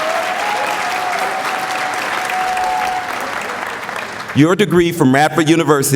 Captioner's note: applause